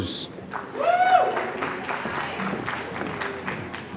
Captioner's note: applause